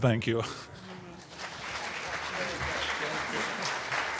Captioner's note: applause